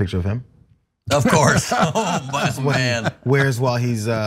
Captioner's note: laugh